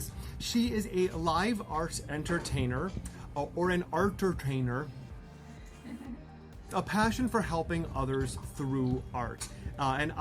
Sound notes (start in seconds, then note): 5.8 laughs